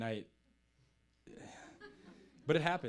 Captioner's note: audience chuckling